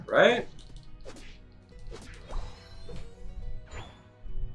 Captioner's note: fighting sounds